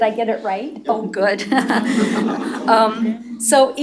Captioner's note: laughter